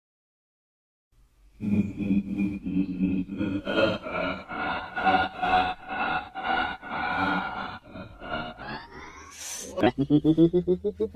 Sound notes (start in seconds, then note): 0.0 laughing